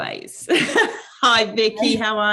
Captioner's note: laughing